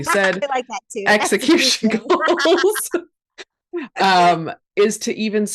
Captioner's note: both laugh